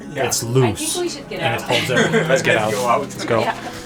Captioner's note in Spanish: ríe